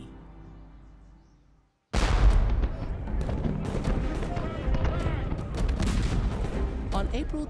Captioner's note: sounds of large battle